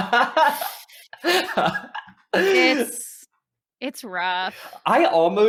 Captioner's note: laughing